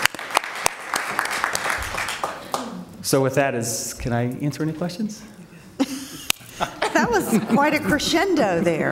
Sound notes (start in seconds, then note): 0.0 applause